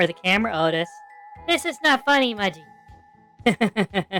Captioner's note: nervously; laughing